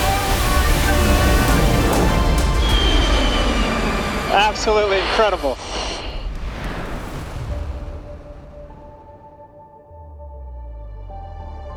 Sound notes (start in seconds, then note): 0.3 jet whistles and zooms; 1.8 engines whooshing; 6.4 jet whooshing; 7.4 ominous music